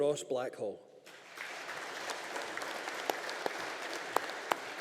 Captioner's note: audience applauding